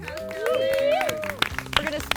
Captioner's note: cheering